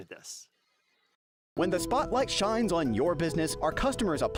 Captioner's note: voiceover